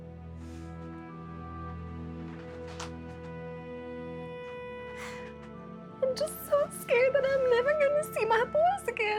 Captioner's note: crying